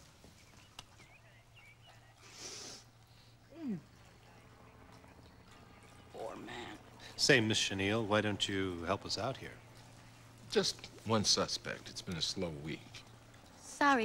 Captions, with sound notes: ( sniffles ) poor man. Say, miss chenille why don't you help us out here? Just one suspect. It's been a slow week.